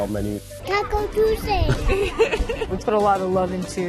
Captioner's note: laughter